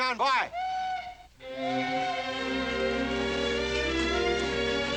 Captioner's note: train Whistle Blows